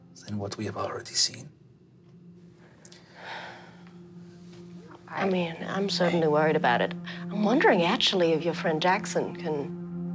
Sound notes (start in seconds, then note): 2.9 sighs